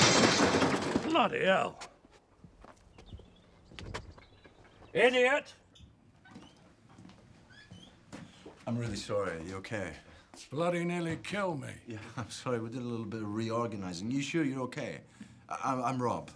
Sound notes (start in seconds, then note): 0.3 microwave thuds; 2.6 birds chirping